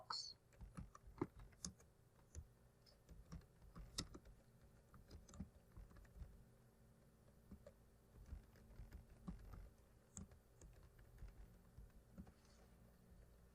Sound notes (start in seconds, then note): 1.6 typing